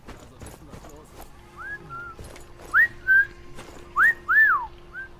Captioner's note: whistling; whistling romantically